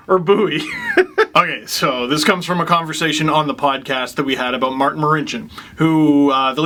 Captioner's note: laugh